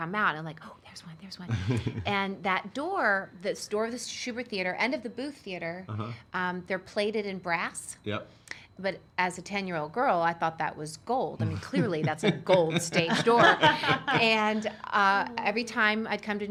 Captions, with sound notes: and like, there's one, there's one, and that door, the door of the Shubert Theater and of the Booth Theater, they're plated in brass, but as a 10 year old girl, I thought that was gold. (chuckling) Clearly, that's a gold stage door, (laughing) and every time I'd come to New York